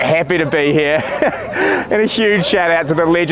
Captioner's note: laughing